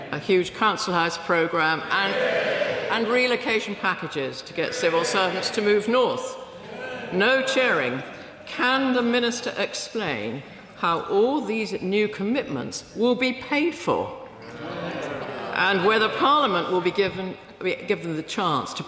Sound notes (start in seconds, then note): 2.1 members cheer louder